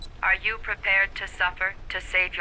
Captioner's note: computer Voice